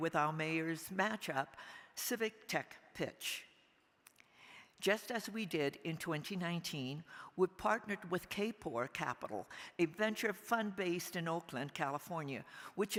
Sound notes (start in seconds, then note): none